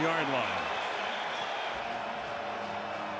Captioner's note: crowd cheering